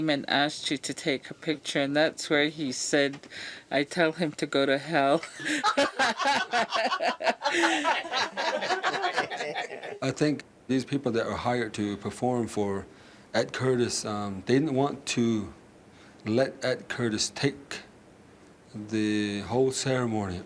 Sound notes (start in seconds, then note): 3.6 all laughing